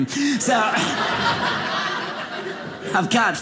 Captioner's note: audience laughing